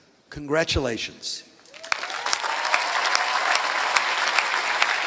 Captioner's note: applause